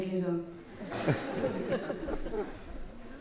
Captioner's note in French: rires